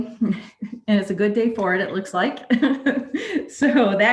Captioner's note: laughing